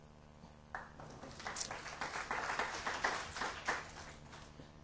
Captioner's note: applause